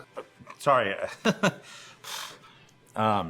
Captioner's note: laughs